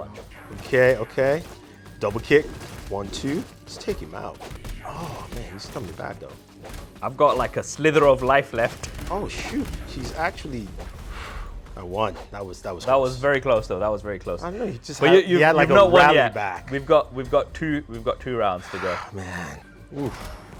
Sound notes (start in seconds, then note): 4.4 flurry of blows thudding; 11.0 exhales